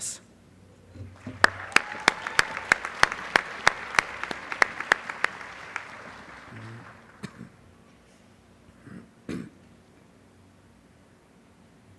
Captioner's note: applause